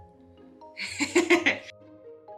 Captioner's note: laughs